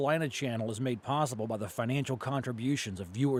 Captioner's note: voiceover